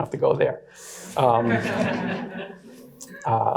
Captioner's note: audience laughs